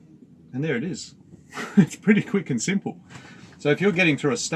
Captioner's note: chuckles